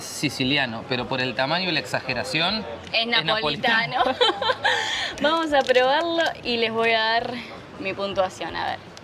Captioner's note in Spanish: risas